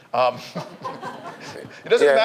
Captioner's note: audience laughs